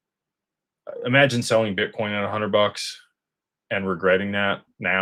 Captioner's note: none